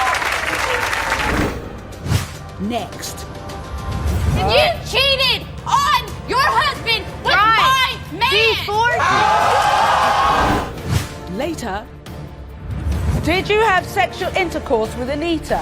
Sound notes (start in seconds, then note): 9.0 audience yells